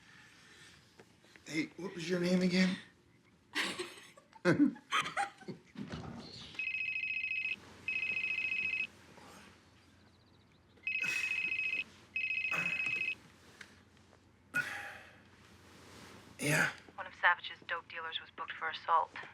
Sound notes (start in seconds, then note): 3.5 both laugh; 7.8 cell phone ringing